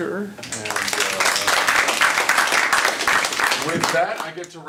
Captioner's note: applause